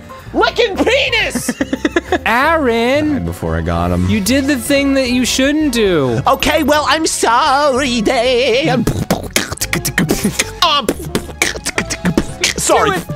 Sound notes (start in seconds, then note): 1.3 laughing; 8.5 beatboxing